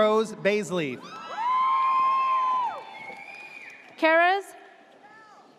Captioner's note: audience cheers